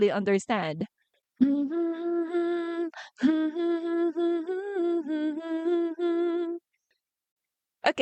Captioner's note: humming